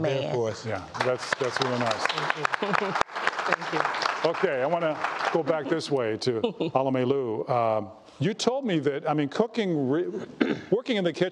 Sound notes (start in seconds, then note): 3.6 applause